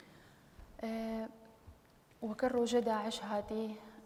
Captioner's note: speaking kurdish